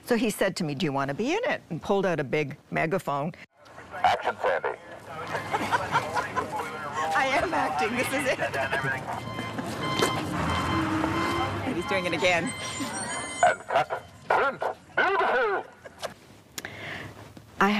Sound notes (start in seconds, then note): 7.9 Sandie laughs